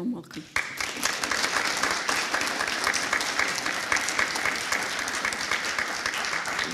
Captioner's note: applause